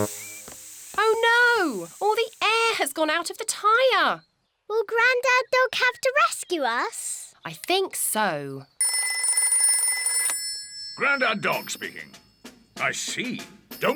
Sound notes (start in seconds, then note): 9.2 rings